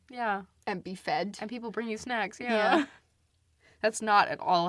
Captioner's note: laughs